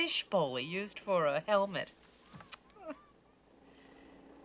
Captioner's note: laughs